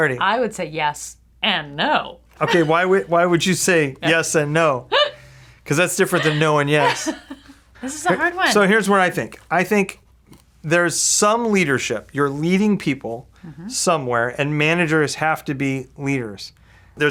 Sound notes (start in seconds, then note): 6.0 laughing